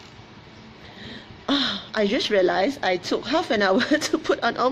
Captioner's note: laughs